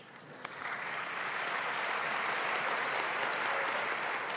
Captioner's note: audience applauding